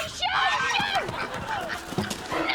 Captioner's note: swan squawks